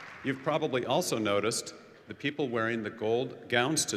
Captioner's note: applause